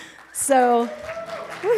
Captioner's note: applause; laughs